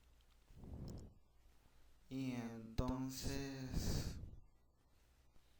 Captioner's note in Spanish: Respiración